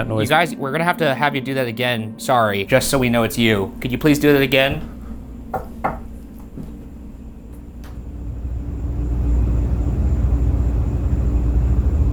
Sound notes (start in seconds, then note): 5.3 knocking; 6.4 deep ominous music